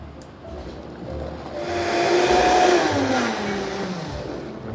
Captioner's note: sound of blender